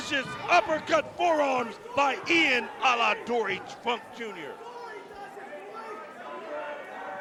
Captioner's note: crowd chatter